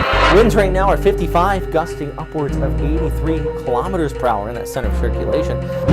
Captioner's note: man on TV reporting